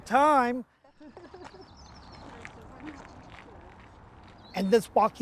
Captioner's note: approaching woman laughs